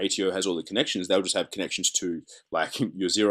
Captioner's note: chuckles